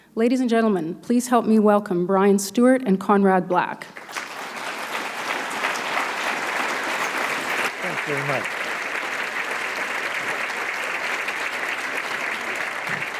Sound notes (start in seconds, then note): 4.3 applause; 9.8 applause